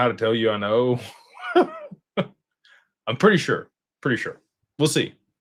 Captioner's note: laughter